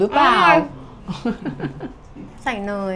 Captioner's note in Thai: เสียงหัวเราะ